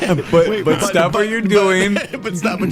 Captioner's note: group laughs